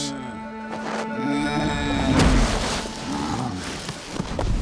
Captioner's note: grunting